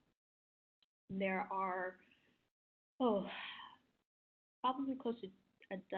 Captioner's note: instructor sighing